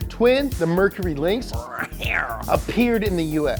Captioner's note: cat-like growl